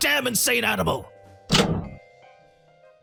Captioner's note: clank